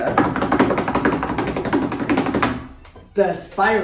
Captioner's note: fists knocking